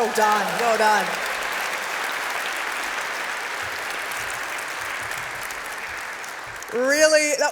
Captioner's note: applause